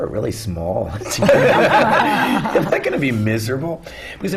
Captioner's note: laughter